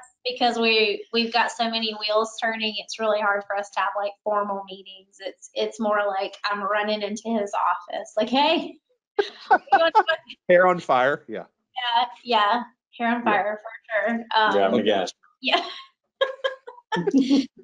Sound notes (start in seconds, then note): 9.2 laughing; 16.2 laughs